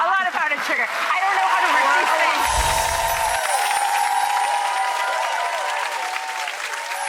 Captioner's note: audience cheers